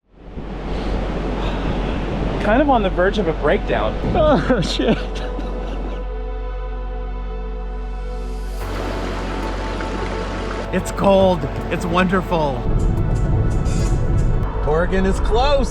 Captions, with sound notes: (wind blowing) Kind of on the verge of a breakdown. Oh, shit. It's cold, it's wonderful. Morgan is close.